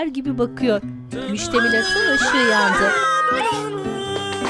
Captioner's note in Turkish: Çığlık sesleri